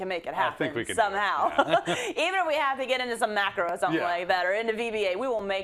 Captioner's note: laugh